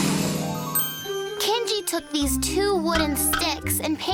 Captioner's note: none